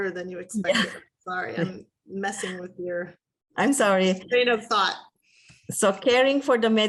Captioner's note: laughter